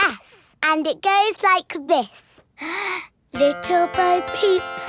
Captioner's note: inhales